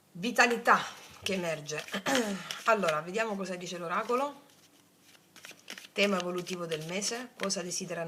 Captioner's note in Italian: schiarire la voce